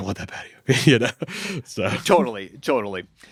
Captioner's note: laughs